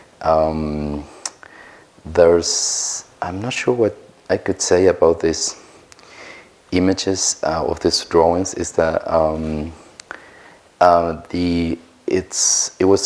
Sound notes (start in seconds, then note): none